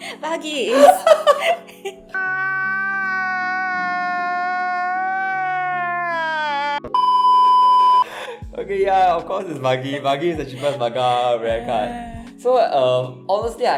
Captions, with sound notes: Buggy it is! [Crying] OK, yeah, of course it's Buggy, Buggy is the cheapest manga rare card. So honestly,